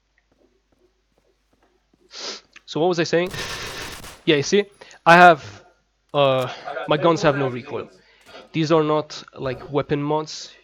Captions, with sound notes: [sniff] So, what was I saying? [Glock goes off] Yeah, you see? I have... Uh, my guns have no recoil. These are not weapon mods.